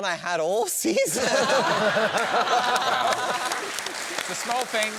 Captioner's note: laughter